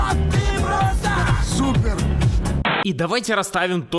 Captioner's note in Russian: помехи